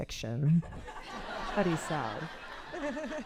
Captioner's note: audience laughing